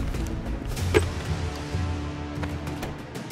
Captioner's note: Door opens